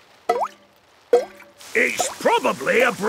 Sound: water dripping

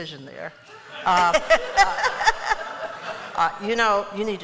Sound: laughter

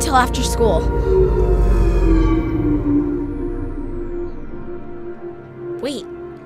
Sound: power Down Sound

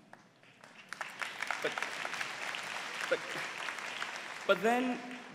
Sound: applause

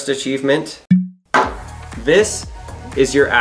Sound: seal pops

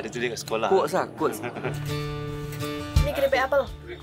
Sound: laugh

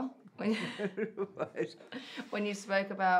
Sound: laughing

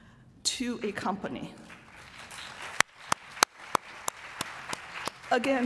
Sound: applause

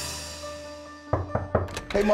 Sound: knocking

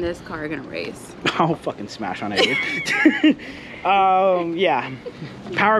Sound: both laughing

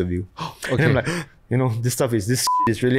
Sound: gasps

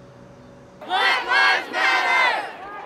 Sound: crowd chanting

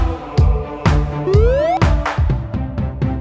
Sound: high whistle

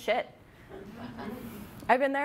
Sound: audience laughing

